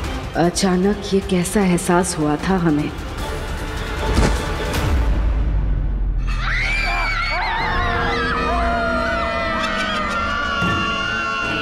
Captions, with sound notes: Why did I have this weird feeling suddenly? [banging] [screaming]